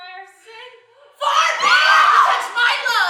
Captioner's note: screaming